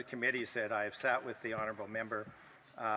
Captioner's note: speaking French